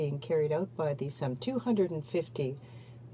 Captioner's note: speaking in french